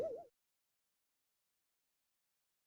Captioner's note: shocked silence